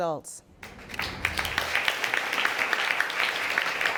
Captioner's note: audience applauding